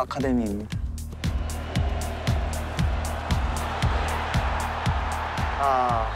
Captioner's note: crowd cheering and screaming